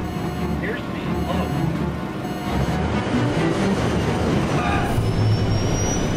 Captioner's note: alarm sounding; dramatic music